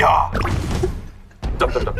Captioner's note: the original writer can't stop laughing